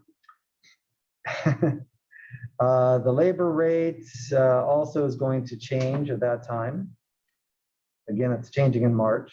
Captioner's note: laugh